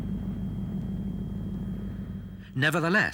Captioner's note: engines rumbling